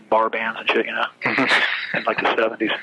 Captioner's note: laughs